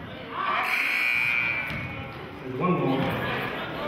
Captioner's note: buzzer sounding